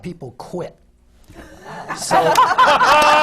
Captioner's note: laughter